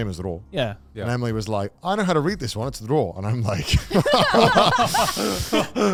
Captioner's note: exhales sharply